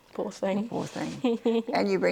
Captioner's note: laughs